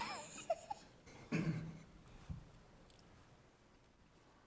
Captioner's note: laughs